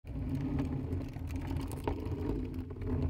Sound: cart rolling

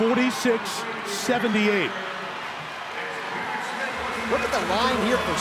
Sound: audience cheering

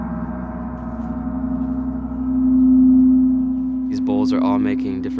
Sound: crystal humming

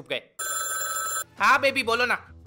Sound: phone rings

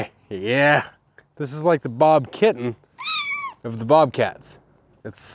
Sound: meow

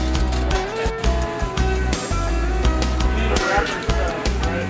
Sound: sounds of food prep

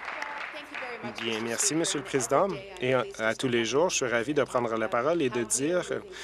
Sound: applause

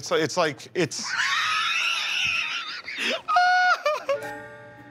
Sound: laughing

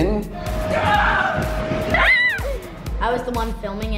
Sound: screaming

